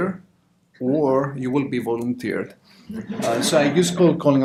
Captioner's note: audience laughter